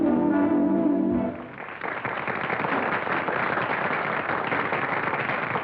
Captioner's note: applause